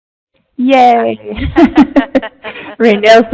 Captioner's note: laughing